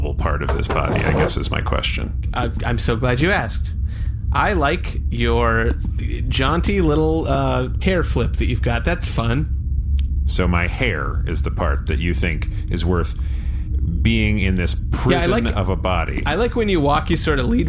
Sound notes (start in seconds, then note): 9.8 irritated